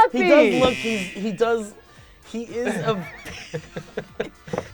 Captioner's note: laughing